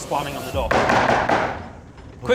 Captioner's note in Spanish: bang bang bang bang